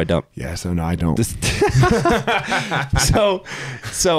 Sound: both laughing

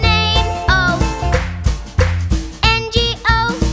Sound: clap

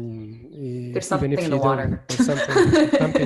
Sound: giggles

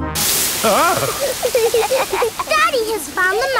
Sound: laughing

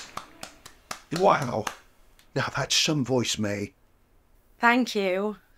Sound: clapping

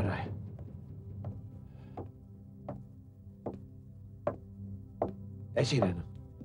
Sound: footsteps approach

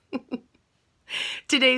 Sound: laughs

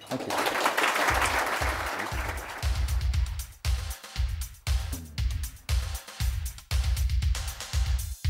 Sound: applause

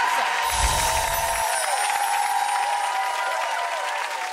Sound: audience clapping; tinkling chimes

